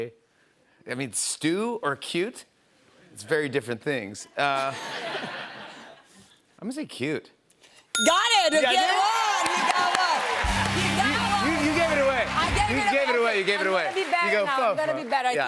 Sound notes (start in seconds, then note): 4.3 laughter; 8.6 cheers and applause